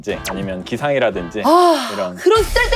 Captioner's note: sigh